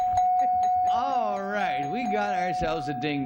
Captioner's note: dinging